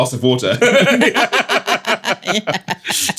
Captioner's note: laughing